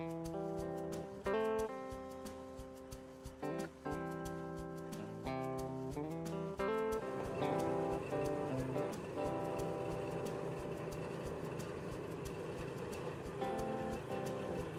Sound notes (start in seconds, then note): 0.3 slow beat music; 7.0 construction sounds